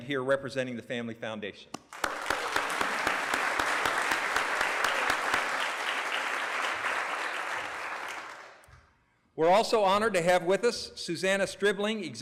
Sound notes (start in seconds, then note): 1.8 applause